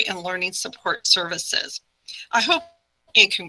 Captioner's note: none